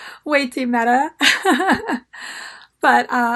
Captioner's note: laughs